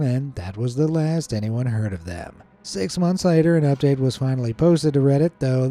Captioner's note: none